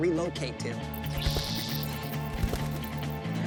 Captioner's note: squeaking